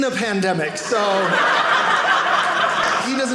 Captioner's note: audience laughing